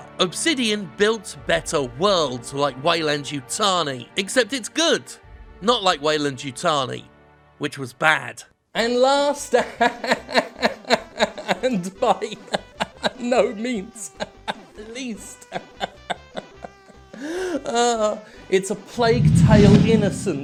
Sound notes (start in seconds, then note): 9.4 laughs, keeps laughing